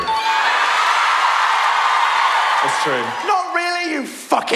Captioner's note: audience cheer